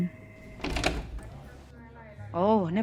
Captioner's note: door open